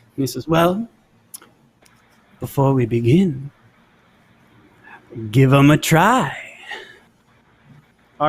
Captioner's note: none